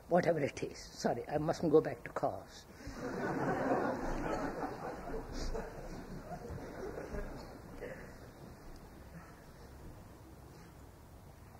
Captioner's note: laughter